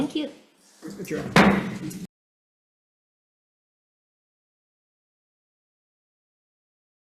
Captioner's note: gavel bangs